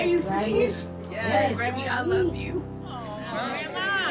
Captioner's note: voice breaking